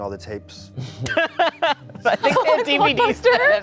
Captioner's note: laughing